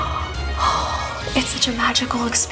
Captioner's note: sighing